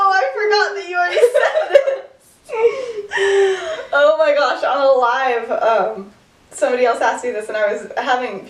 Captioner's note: laughter